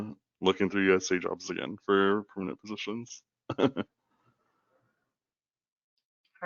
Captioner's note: chuckles